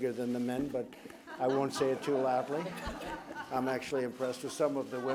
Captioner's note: laughter